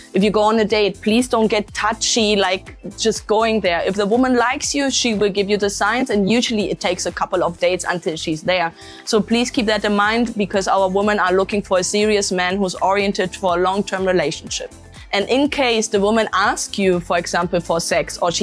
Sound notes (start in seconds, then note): 10.7 Latin